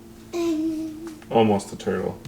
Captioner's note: vocalizes